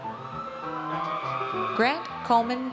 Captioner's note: audience cheers